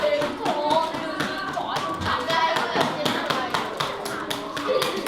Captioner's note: kids chatter; foreign language